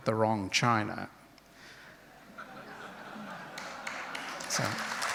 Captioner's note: crowd laughs and applauds